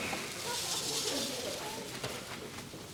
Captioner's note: all chattering